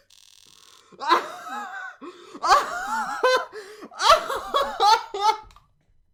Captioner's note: laughter